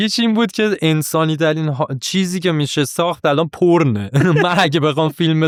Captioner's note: laughs